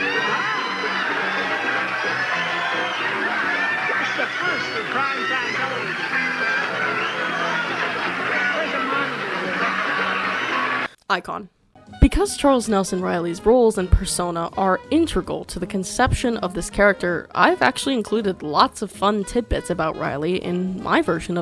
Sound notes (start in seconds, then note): 4.2 crowd going ballistic